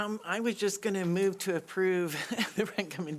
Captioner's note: chuckles